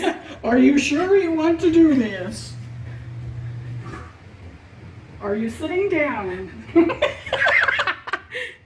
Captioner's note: laugh